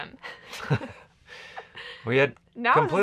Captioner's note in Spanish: riendo